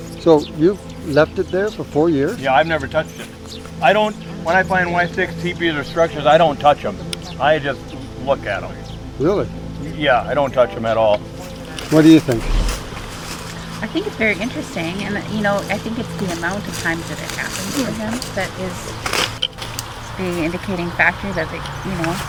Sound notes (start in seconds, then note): 12.7 branches crackling